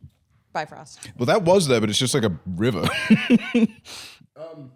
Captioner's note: laughs